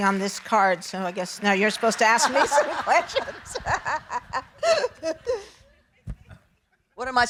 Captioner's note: laughing